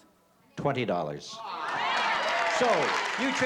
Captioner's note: applause